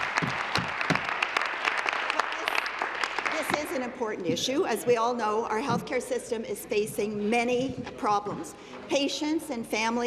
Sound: applause

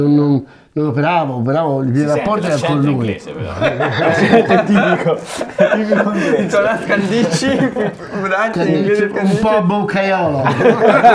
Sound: both laught

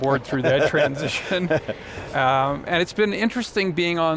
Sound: laughing

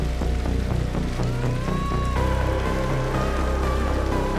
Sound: cat yowling

